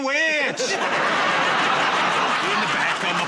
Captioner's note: laughter